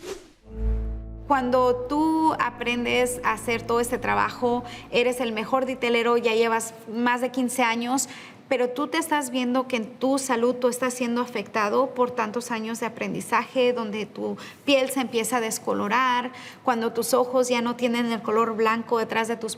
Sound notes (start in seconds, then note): 0.5 gentle music; 1.2 speaking in Spanish